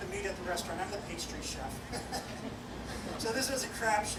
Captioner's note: laughs